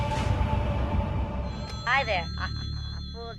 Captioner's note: click; phone ringing